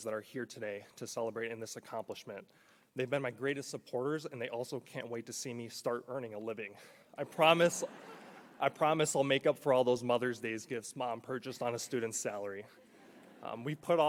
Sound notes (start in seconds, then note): 7.2 audience laughing